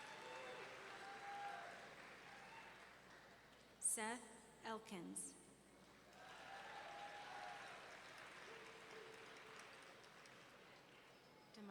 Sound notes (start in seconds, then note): 0.0 audience clapping; 6.2 audience cheering and clapping